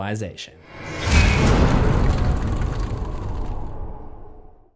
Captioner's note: impact